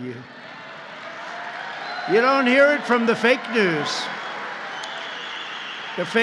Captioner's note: applause